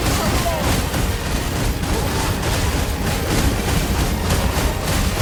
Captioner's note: weapons slash